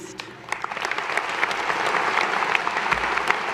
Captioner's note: applause